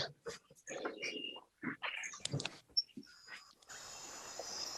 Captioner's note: birds chirping